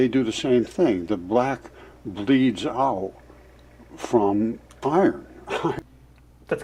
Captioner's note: chuckles